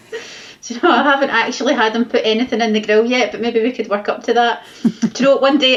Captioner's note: laughs